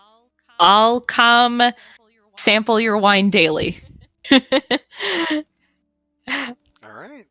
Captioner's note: laughter